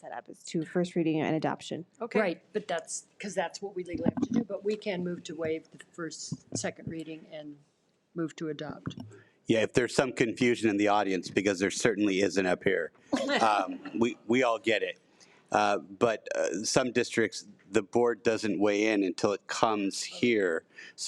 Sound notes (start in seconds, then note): 13.2 audience laughs